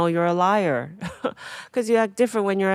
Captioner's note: Atsuko chuckling